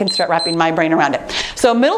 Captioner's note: timer beeps